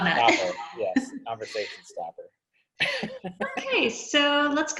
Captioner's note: laughs